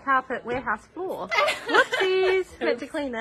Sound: laughs

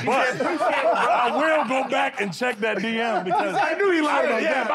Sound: laughter

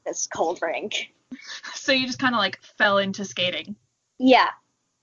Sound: laughs

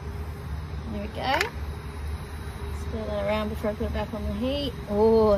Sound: lid clunks

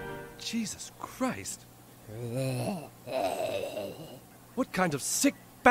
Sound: Butters groans

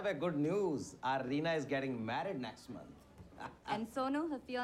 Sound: laughing

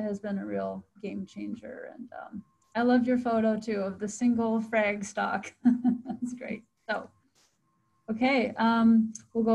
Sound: chuckles

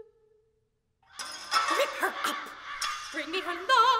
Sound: crows, breaking glass

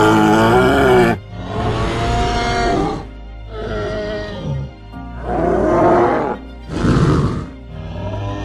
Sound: triceratops sounds

